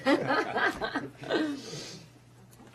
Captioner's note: laughing